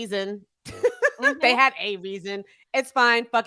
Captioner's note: chuckling